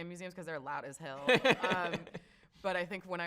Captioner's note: laughs